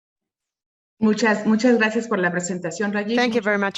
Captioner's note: speaks in foreign language